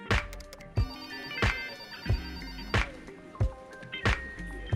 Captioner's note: phone rings